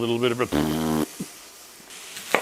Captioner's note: fart noise